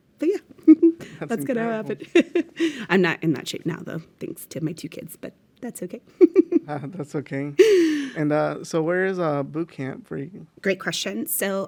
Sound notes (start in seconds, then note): 7.6 laughs